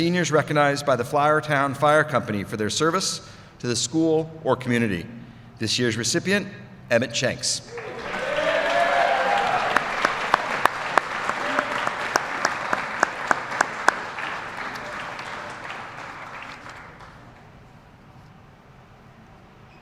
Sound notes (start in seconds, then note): 12.5 applause